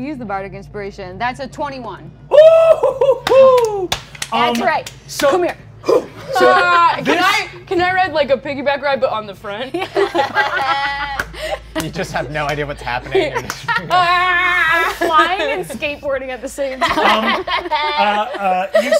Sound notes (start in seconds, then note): 2.6 laughs; 5.8 grunts